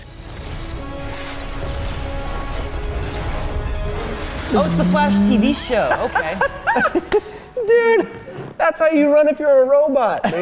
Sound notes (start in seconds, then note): 5.8 laughing